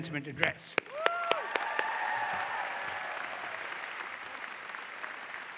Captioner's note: audience applause